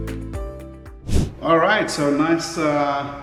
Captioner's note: whoosh